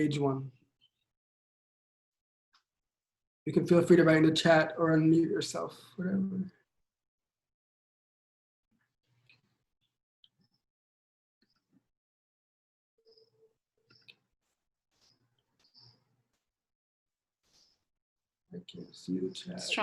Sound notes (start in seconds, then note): 3.9 silence